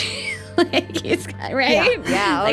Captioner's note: laughing